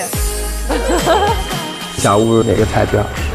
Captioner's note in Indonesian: Tertawa